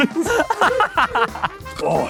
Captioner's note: laughs